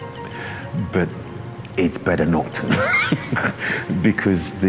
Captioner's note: laughs